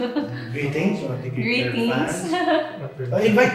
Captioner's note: laugh